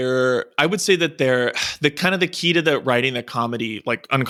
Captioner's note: sighs